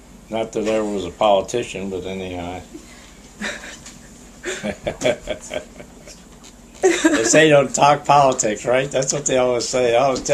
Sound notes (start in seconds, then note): 4.4 laughter